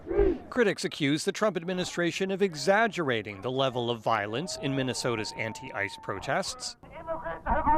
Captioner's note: chanting